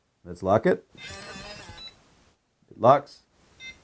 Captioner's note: powerbolt buzzing; keypad tone